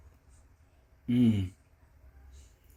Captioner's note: inhale